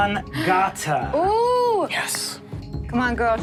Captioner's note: Sofia screams